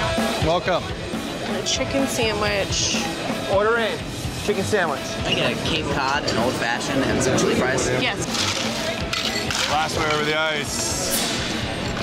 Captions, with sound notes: Welcome. - Chicken sandwich. - Order in. Chicken sandwich. - Can I get a Cape Cod, an Old Fashioned, and some chili fries? - Yes. (ice crunching) - Glassware over the ice.